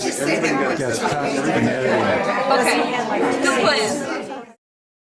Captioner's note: voiceover; overlapping chatter